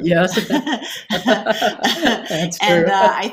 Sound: both laughing

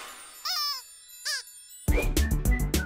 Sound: deflated squeak; upbeat whistling

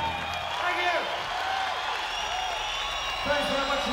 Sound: crowd cheers

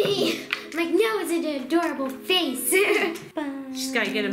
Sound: laughs

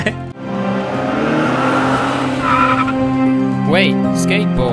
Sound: yells; skateboard screeches

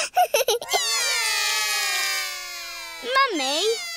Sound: laughs; all cry

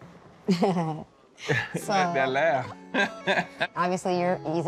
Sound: laughs nervously; chuckles

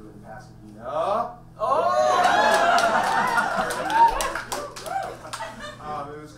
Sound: audience cheers

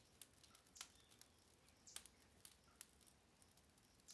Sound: flames crackling

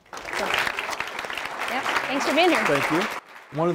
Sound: applause

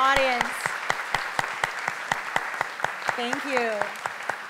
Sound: applause

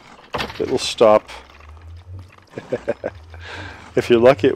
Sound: bones rattle; chuckle

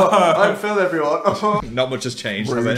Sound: laughs sarcastically

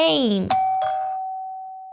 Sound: doorbell

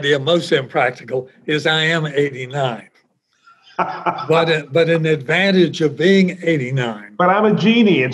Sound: laughs

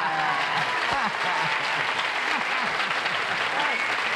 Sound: applause

